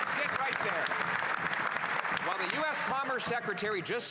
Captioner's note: applause